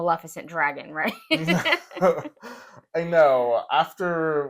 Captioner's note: laugh